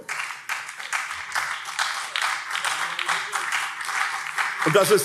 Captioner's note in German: Beifall SPD und CDU